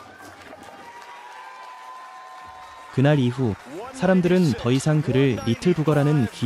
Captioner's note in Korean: 환호